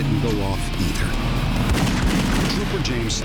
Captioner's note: gunfire